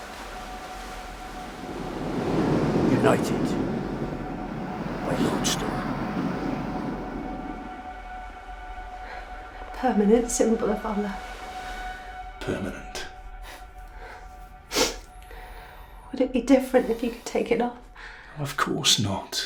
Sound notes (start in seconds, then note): 0.0 dramatic music; 0.0 waves crashing; 14.6 Sofia sniffles